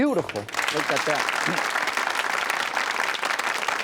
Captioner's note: applause